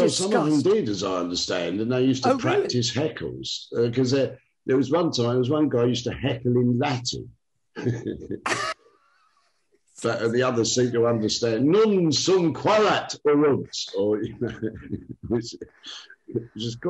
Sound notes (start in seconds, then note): 7.8 laughs; 11.6 speaks cod latin; 14.0 laughs